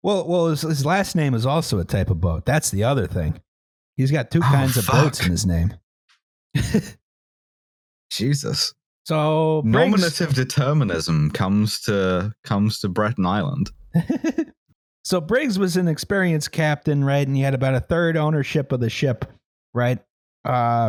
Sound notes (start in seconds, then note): 7.0 laughs; 13.9 laughs